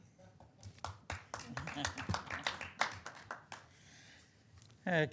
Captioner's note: applauding